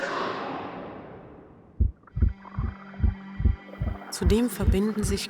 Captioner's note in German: Herzschlag